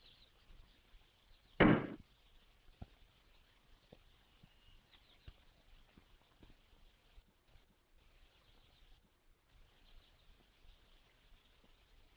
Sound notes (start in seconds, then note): 1.4 car doors slam